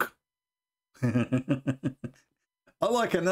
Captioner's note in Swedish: Skratt